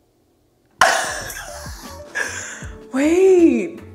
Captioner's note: laughing